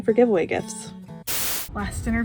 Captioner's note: static